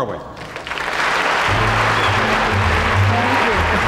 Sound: audience applauds

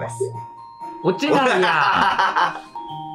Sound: laughing

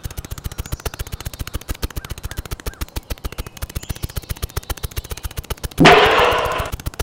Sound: snapping; slam

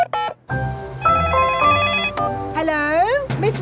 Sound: beeping; phone ringing

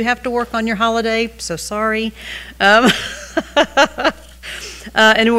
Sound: laughs

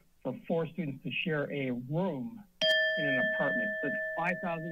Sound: alarm sound

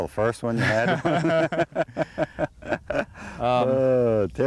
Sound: laughter

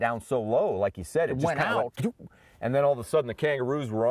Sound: woo noise

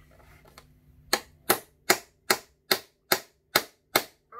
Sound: hammer tapping

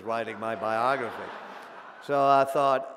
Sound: audience laughing

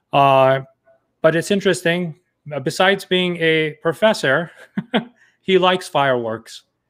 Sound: chuckles

